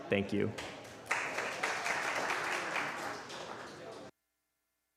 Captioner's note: applause